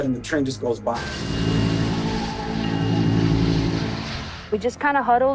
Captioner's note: train clattering on the tracks